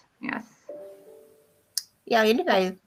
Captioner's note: notification sound